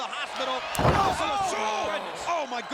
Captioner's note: body thudding